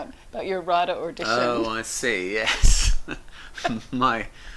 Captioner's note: laughs